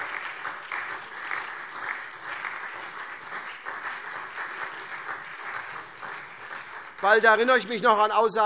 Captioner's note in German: Beifall SPD